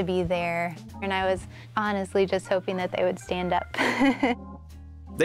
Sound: laughs

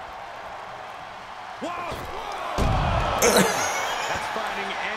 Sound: laugh

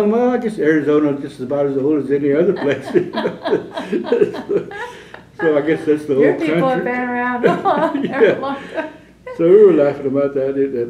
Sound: laughter

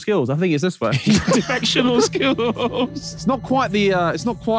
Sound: Tobi and Vik laughing

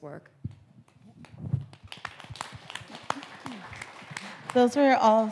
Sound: audience applauding

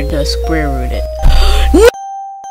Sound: gasp

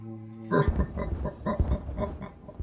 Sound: laughing

